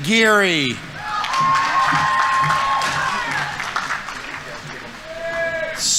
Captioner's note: audience members cheering; audience applauding